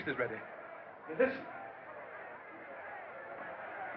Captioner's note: crowd Clamoring Outside